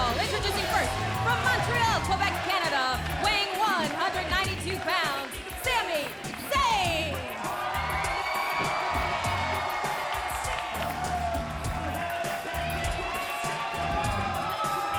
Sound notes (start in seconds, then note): 7.5 crowd cheering; 9.7 singer vocalizing; 9.7 upbeat music